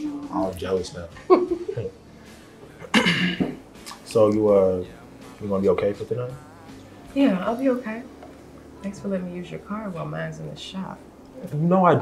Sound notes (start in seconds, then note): 1.2 Rachel laughs; 2.8 coughs